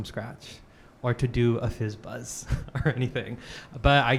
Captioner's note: chuckling